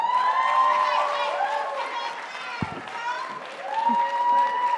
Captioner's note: audience applauding